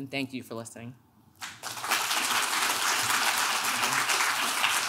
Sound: clapping

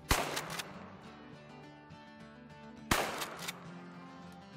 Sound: gunshots

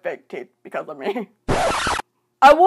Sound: record scratch

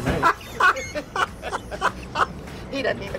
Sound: laughs

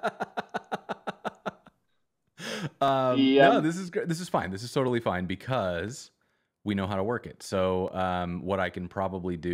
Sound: laughter

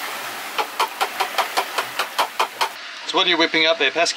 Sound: bowl banging

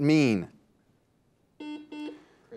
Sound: buzzer beeps

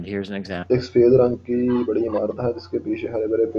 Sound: hindi speaking

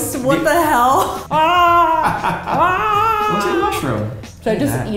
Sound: screams

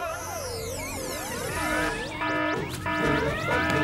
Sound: alarm!

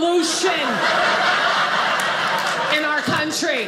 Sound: audience laughing

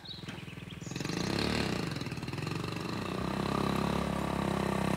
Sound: motorbike engine running

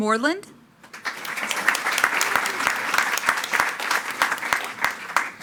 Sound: attendees clapping

